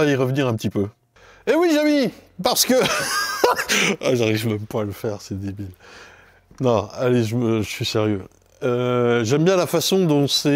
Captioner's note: laugh